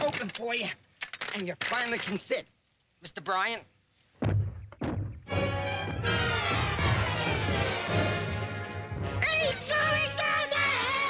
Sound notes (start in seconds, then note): 4.2 thudding; 8.2 shouts